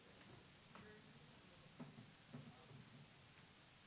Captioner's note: people chatting